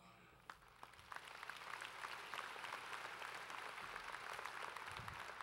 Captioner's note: applause